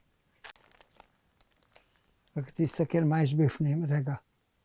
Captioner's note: hebrew